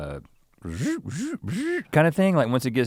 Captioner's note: mimics zapping sound